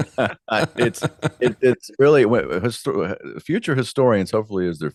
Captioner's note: both Laughing